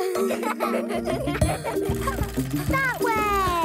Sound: laughing

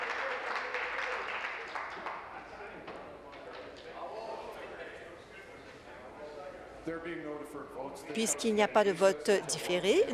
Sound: applause

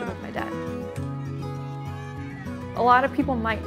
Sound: bat cracking

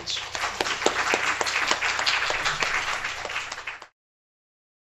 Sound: applause

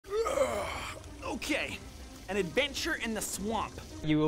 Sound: yawn

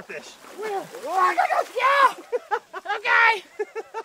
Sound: yelling

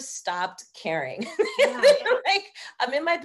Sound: laughing

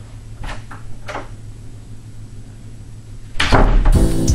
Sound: door opens and closes

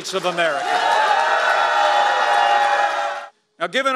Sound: crowd cheering

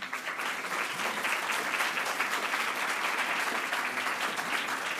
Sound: audience applauding

